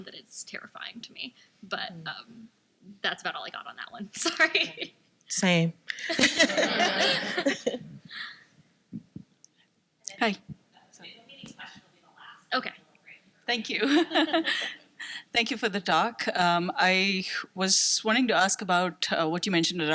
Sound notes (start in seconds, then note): 6.0 laughs; 6.0 laughter